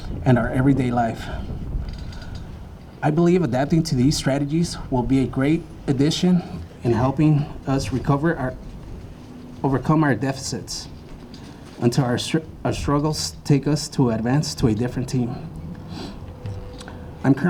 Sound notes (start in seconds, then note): none